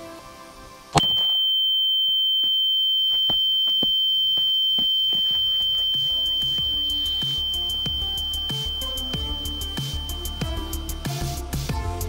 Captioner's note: ears ringing